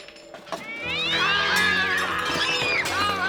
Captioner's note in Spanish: gato chillando; Al gritando; gritando